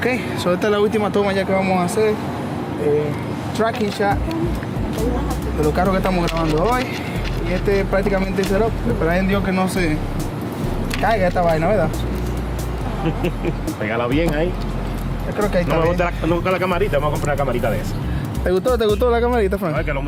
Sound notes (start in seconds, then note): 12.8 laughing